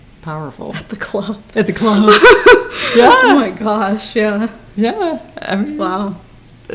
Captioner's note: laughs